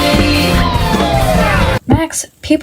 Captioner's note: howling